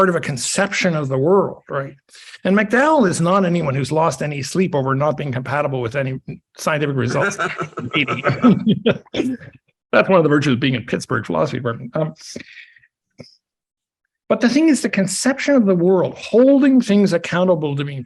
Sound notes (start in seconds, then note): 7.0 laughs; 7.1 chuckles